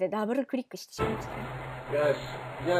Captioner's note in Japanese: 効果音